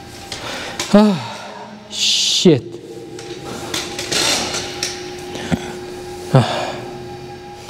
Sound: sighing

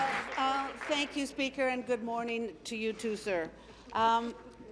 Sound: applause

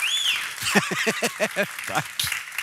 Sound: applåder; busvissling; skrattar

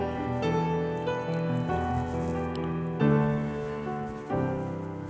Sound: water trickling

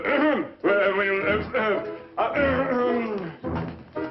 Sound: stammering

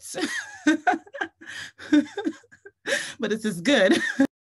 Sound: laughs

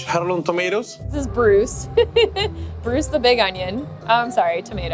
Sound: laughing

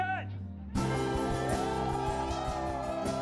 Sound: all cheering

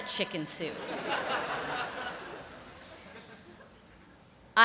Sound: laughter

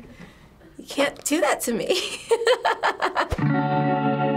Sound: laughs; relaxing guitar music

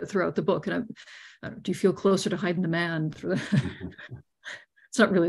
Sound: laughs

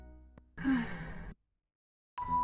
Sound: sigh

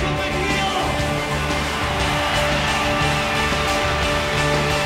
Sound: crowd cheers

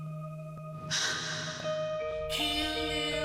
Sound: sighs

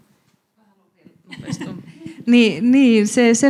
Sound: laughing

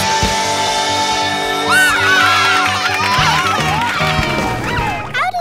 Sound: cheering

